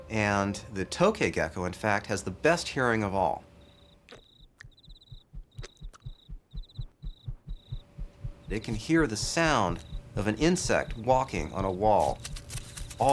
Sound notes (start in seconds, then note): 3.5 cricket chirping; 4.1 gecko slurping